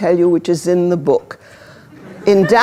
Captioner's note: laughter